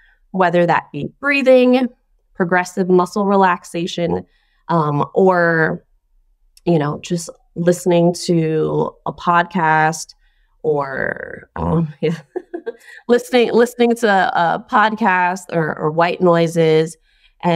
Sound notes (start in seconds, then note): 12.0 laughs